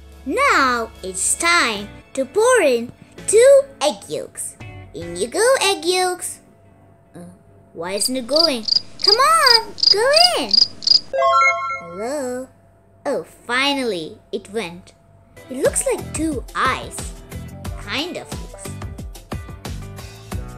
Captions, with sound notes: Now, it's time to pour in 2 egg yolks. In you go egg yolks! Uh. Why isn't it going? (crickets chirping) Come on! Go in! (crickets chirping) (sound effect) Hello? Oh. Finally! It went. It looks like two eyes. Kind of looks.